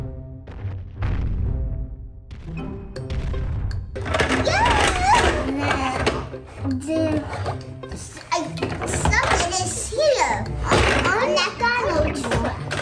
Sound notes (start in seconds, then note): 0.2 heavy footsteps boom; 4.4 children babble; 6.6 bang toys; 10.6 toys crash